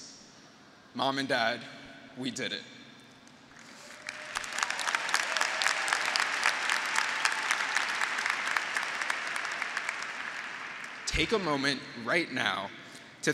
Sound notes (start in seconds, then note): 3.5 graduates applauding; 3.8 graduates cheering